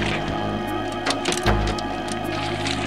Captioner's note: banging on roof